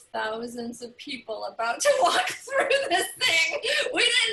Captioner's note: laughter